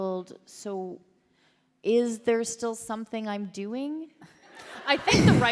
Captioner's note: laughter